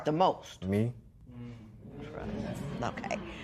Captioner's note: spectators murmur